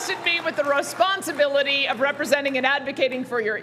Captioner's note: cheering